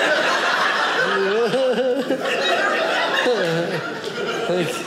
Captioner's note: audience laughing